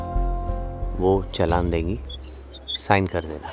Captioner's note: Door opens